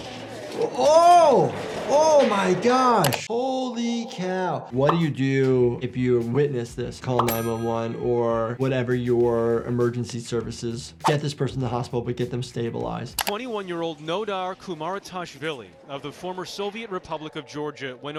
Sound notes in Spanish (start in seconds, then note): 0.0 ruido de trineo; 7.2 efecto de sonido del teléfono